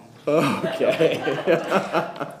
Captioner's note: laughter